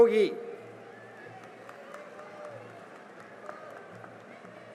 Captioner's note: cheering and applause